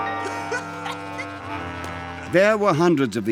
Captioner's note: man laughing